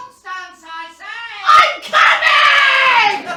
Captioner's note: screaming